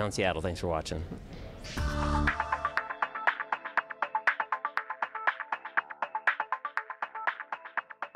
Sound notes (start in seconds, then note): 2.2 electronic tones